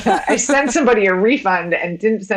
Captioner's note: women laughing